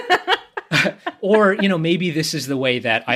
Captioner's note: laughs